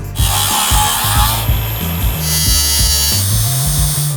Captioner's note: grinder rasping